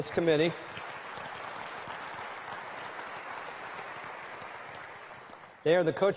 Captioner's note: applause